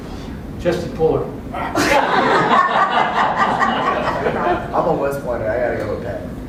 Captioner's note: laugh